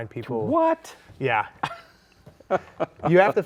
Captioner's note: laughs